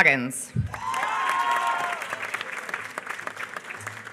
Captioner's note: applause